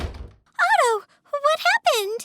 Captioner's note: door shuts